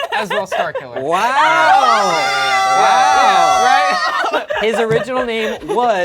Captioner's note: group cheers